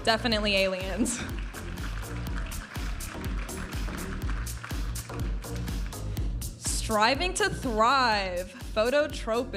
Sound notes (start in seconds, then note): 0.9 audience applauding; 4.0 upbeat music